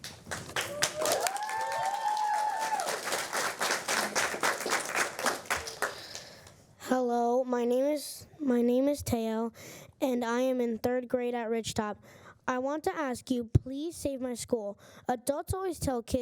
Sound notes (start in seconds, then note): 3.5 applause